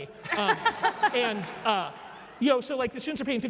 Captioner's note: laugh